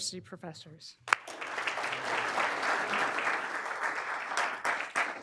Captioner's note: all applauding